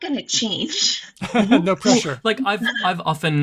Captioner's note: chuckles